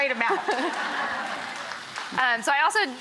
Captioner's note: audience laughs